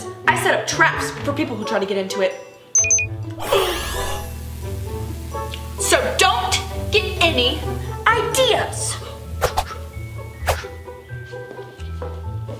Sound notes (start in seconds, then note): 2.7 watch beeps; 10.0 lively music